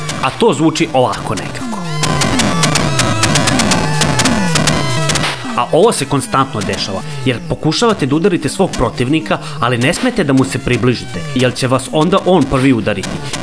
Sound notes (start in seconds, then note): 1.6 the sounds of "blows" overlap music that is barely heard